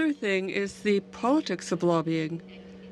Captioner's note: speaking French